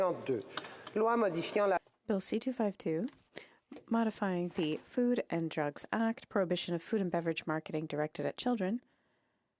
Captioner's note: speaking french